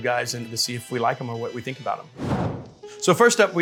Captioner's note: graphic whooshing